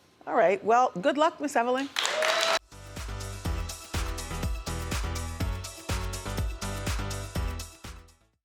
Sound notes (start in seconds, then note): 1.9 audience applause; 2.6 upbeat music